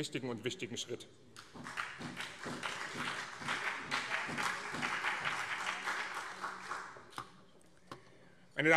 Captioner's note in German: Beifall BÜNDNIS 90/DIE GRÜNEN